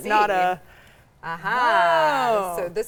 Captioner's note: both exclaiming